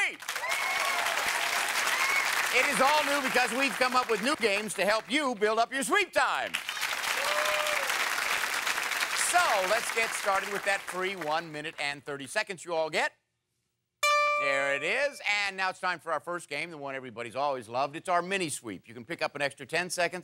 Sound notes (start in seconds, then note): 0.0 cheering; 6.4 applause; 14.0 dings